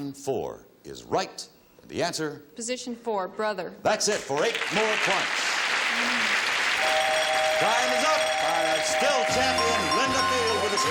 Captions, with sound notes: -Line for is right, and the answer. -Position four, brother. -That's it for eight more points. -(bell rings) -Time is up! Still champion, Linda Field,